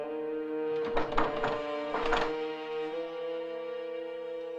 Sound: door rattling

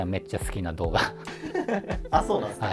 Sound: laughing

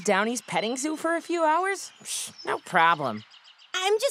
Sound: none

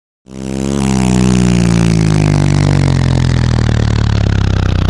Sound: motor sound

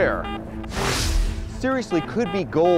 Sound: whooshing

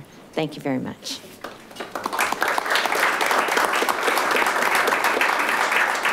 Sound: audience applauding

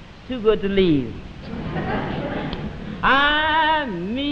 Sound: audience laughing

